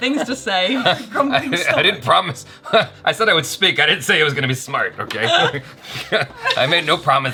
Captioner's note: chuckles all the way